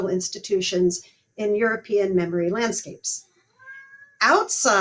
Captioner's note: cat meowing in the background 2:21:30